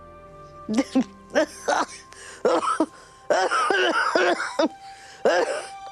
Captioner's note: coughing